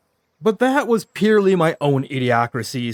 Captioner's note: none